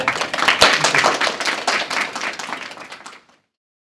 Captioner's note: applause